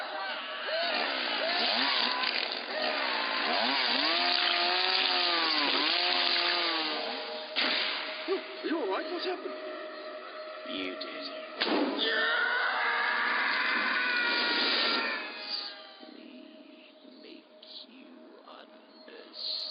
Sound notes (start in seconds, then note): 0.6 chain saw buzzing; 12.0 man screaming